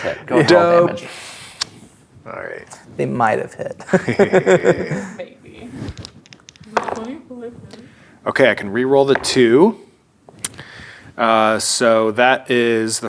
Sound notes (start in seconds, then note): 3.8 players laughing; 5.8 dice rolling; 6.3 sarcastically; 9.3 dice rolling